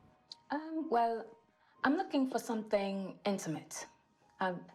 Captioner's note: British accent